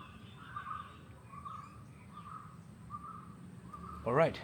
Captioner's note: birds chirping